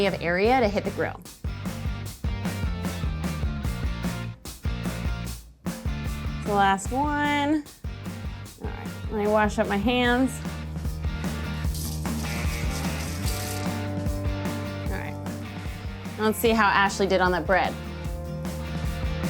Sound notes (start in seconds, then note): 0.0 upbeat music; 11.8 water sloshing; 17.8 upbeat music continues